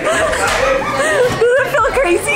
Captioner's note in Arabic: ضحك عصبي